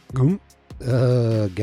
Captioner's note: narrator gulping